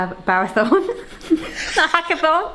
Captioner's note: both chuckle